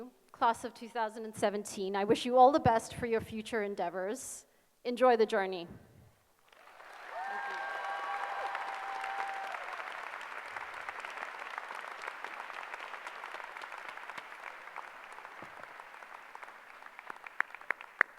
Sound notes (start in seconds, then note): 5.7 applause